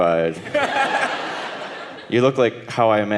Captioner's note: audience laughing